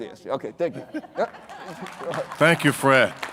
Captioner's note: audience laughing and applauding; audience applauding